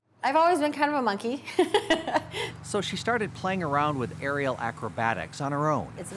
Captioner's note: howlish laughter